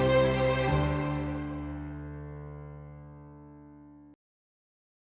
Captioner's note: whoosh